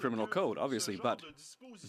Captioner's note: speaking French